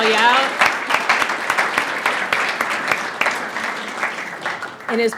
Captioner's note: audience applauds